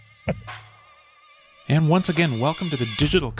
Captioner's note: laughs